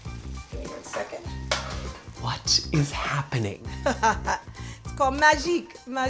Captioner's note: laughs